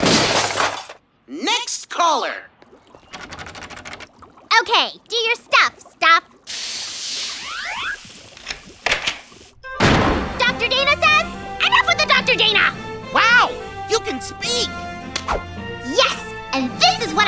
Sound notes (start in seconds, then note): 1.8 jiggles doorknob